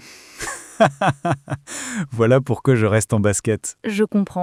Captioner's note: laughs